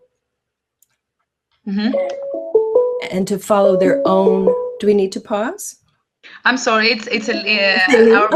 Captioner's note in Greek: Ήχος τηλεφώνου